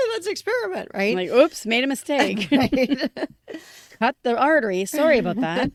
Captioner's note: laughter